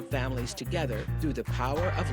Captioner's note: shrieks